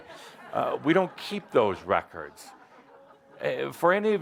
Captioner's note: laughter